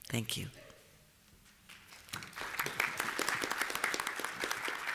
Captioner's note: applause